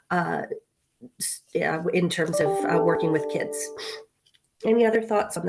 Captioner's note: computer chimes